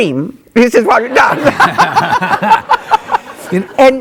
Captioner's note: both laughing